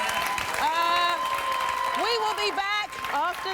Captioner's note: applause